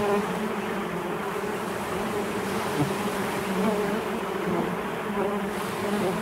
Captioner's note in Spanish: creciente zumbido de moscas